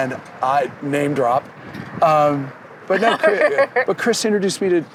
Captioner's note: laughter